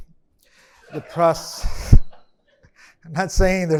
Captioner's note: attendees laughing